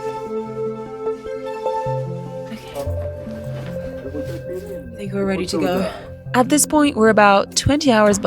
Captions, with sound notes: Okay. (announcer chattering) I think we're ready to go. At this point, we're about 20 hours